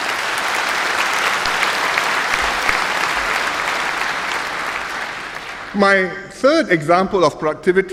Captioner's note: applause